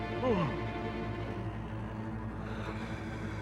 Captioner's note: moaning; gasping